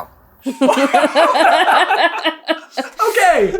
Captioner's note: team laughter